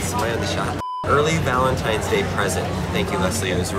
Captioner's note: beep